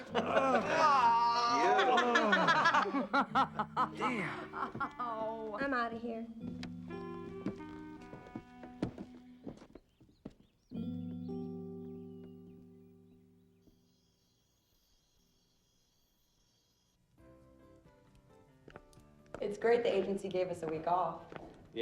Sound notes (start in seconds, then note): 2.1 swanky music; 8.9 crickets chirping